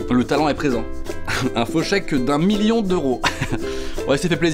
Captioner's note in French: rire